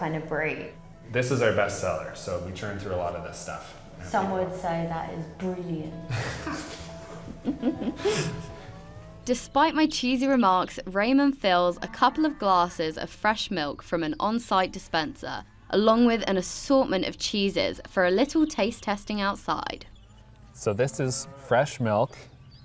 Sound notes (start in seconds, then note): 6.0 laughs